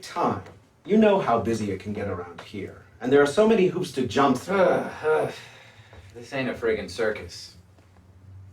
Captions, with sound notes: and there are so many hoops to jump through. (sighing) - This ain't a friggin' circus. On the other hand, you have been walking a tightrope